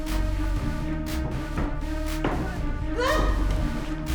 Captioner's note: all screaming; dramatic music